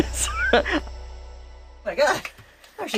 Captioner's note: laughs